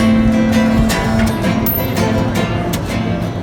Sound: sound of falling coins

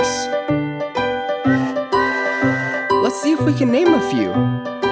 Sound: train toots

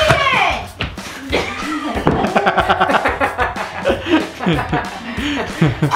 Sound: laughing

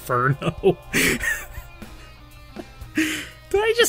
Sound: laugh

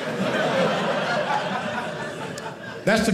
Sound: audience laughing

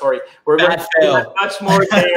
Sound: laughing

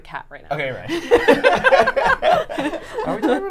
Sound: all laughing

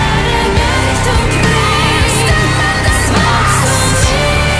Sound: scream

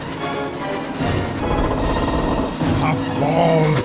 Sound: pinchy creaking

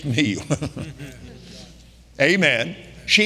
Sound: all laughing

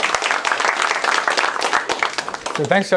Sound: applause

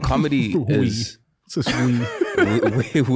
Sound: laughs

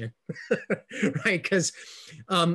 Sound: laughing

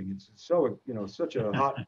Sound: laughs

